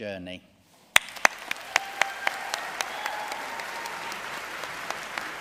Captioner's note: audience cheering and applauding